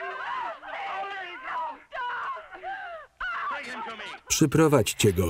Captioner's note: yelling and crying